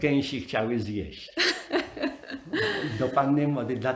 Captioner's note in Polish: śmiech